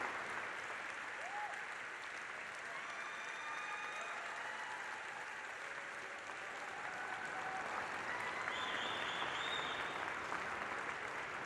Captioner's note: applause